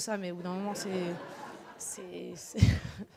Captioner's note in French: rires